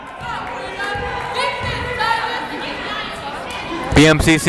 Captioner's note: yelling